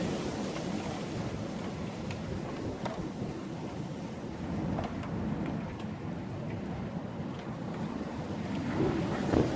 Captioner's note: wind noise